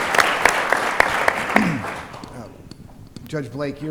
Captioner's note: applause